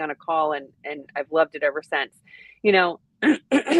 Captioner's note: clears throat